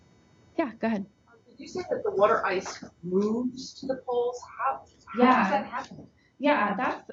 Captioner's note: voiceover